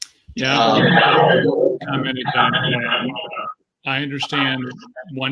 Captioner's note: microphone feedback